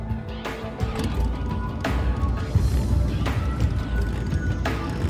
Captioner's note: motorbike engine rumbling